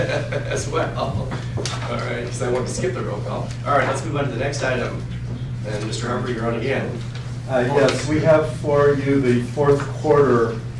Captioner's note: laughter